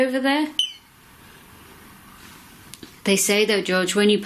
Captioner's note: beep